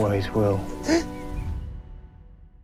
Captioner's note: jeremy sobs